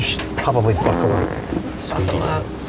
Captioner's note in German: Furz